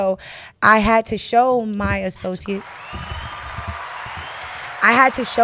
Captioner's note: applause track